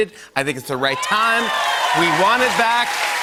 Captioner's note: cheers and applause